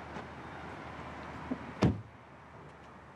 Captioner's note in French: Portière qui se referme